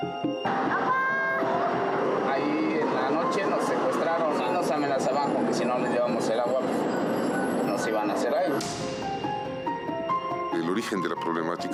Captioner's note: speaking in Spanish